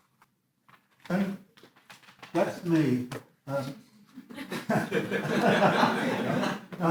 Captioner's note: audience laughs